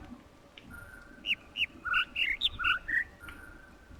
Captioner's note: overlapping birds chirping, ˥ ˥ ˩ ˧ ˩